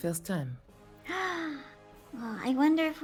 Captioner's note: gasps